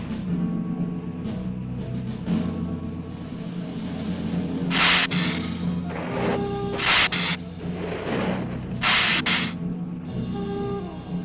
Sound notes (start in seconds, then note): 4.7 lizard hissing